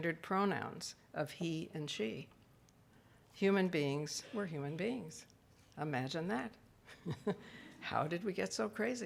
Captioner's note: laughs